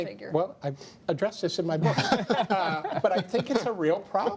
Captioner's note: laughter